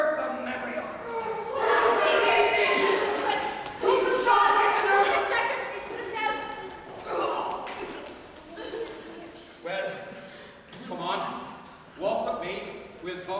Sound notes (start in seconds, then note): 1.3 shouting